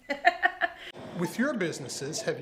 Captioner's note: laughing